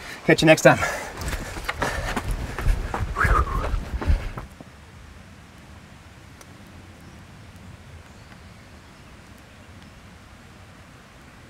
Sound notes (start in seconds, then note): 0.6 footsteps clopping; 3.1 Sam exhales